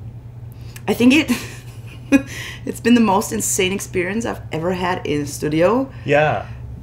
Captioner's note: laughs